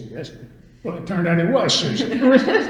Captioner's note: all laugh